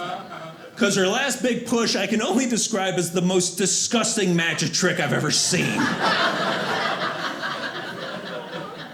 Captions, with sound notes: Cause her last big push, I can only describe as the most disgusting magic trick I've ever seen, (audience laughing)